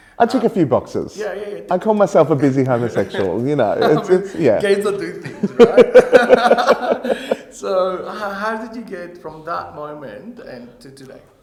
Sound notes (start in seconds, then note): 5.7 both laughing